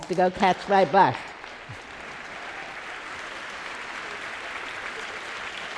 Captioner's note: applause